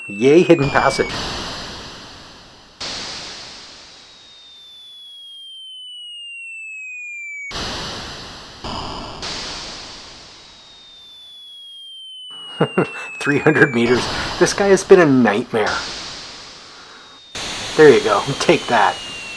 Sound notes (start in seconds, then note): 2.8 guns firing, mortars dropping, splashes; 12.3 chuckles